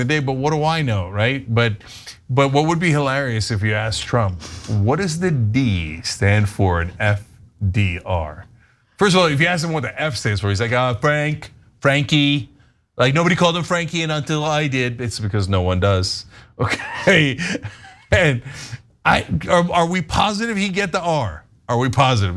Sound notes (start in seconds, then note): 16.6 laugh